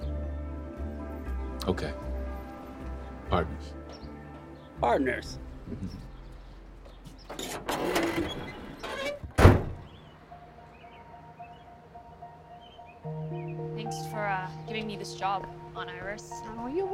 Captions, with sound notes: - Okay. Partners. - Partners. (food truck door closing) (gentle music) - Thanks for giving me this job, Aunt Iris.